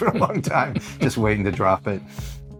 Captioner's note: laughter